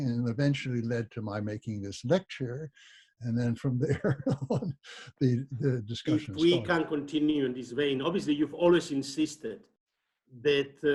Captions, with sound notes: and eventually led to my making this lecture and then from there (laughs) the discussion -- - If we can continue in this vein obviously you've always insisted that